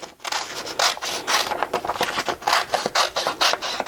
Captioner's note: paper rustling